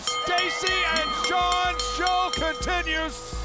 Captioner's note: bell ringing